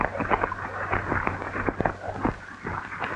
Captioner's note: hoofbeats